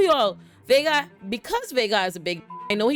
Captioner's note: beep